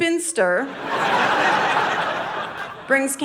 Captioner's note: audience laughing